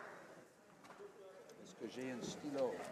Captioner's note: speaking French